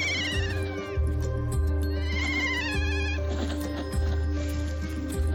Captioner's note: keas trilling